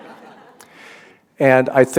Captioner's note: laughter